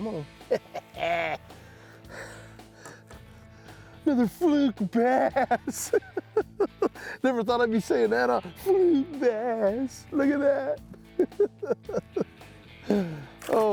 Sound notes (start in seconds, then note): 5.0 chuckles